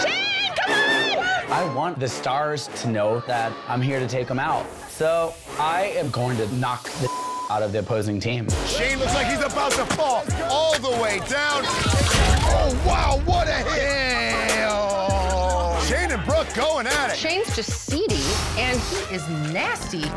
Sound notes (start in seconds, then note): 7.0 beep